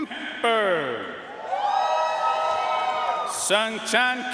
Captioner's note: audience cheering and applauding